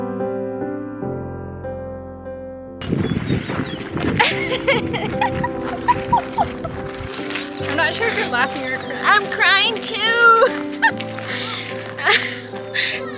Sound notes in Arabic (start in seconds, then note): 4.1 تضحك